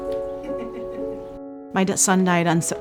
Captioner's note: laughter